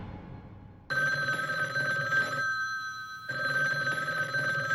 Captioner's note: phone ringing